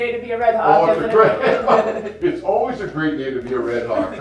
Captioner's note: laughter